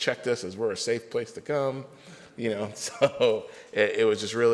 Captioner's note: laughs